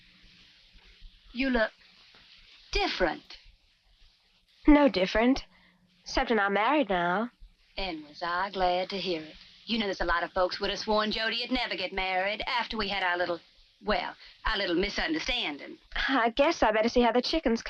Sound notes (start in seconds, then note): none